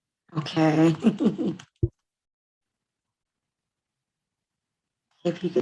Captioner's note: laughing